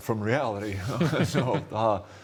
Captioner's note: laughter